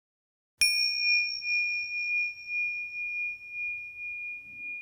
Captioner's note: bell chiming